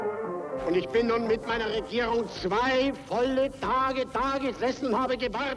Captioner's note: Nazi speaks German